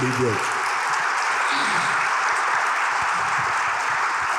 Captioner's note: audience applauding